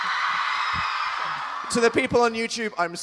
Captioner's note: audience still Cheering